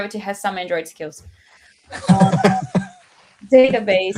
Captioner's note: laughter